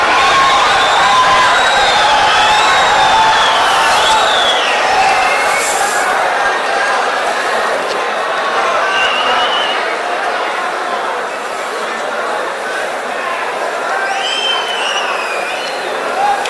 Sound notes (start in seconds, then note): 1.4 wild applause and cheering for 22 seconds